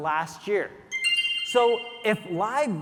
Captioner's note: screen chiming